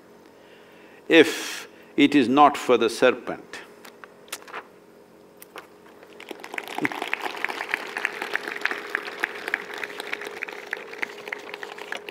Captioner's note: applause